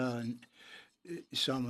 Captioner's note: speaking in French